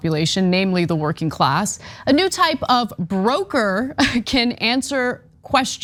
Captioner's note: laugh